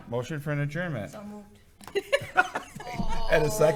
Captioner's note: panel laughing